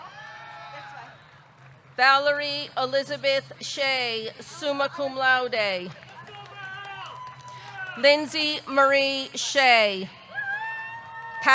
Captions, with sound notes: (audience cheering) Valerie Elizabeth Shay, summa cum laude. (audience cheering) (audience clapping) Lindsey Marie Shea. (audience cheering)